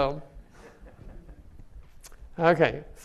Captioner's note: audience laughing